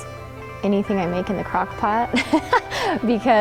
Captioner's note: laughing